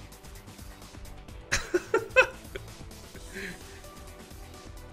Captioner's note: laughs